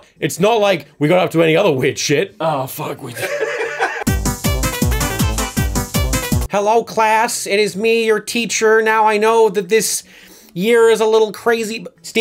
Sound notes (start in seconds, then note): 3.1 laughter; 3.3 upbeat music